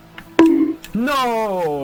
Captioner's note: bonk